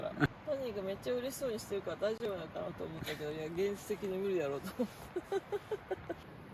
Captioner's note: laughs